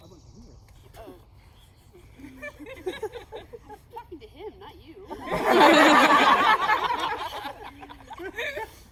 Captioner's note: uproarious laughter